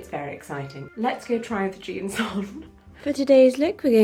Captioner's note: laughs